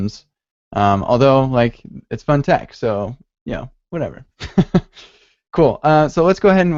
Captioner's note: laughs